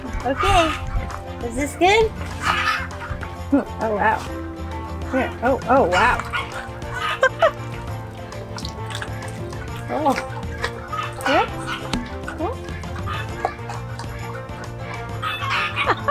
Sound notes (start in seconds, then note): 7.2 laughs; 14.1 laughs